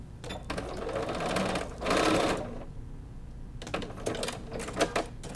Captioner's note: sewing machine beeping